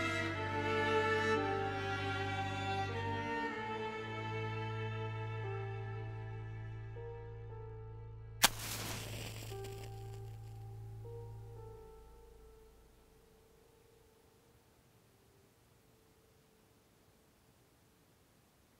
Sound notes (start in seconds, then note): 8.4 match striking; 11.3 soft tense music